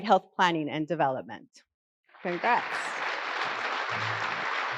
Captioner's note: applause